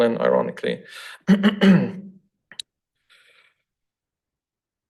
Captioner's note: throat clears